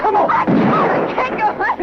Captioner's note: gunshot